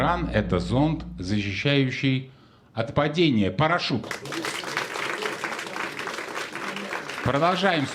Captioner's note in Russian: аплодисменты